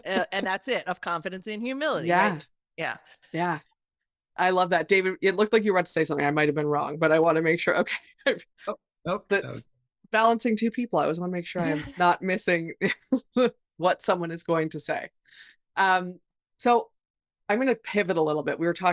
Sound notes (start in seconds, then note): 9.6 faintly speaking; 11.6 chuckles